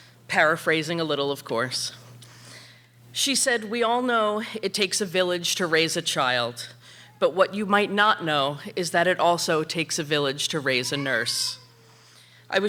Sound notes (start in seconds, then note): none